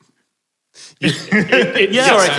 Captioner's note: group laughing